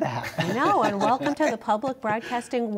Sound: laughter

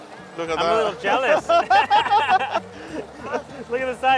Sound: laughs

